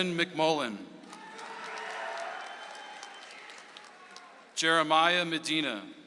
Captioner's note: audience applauds